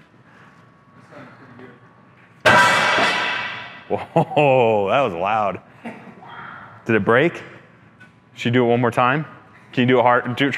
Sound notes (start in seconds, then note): 2.7 lid banging